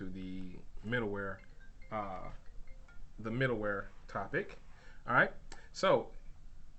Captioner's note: cell phone ringing